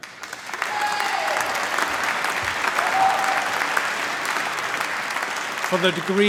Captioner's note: applause